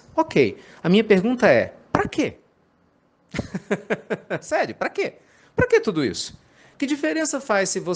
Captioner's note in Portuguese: risadas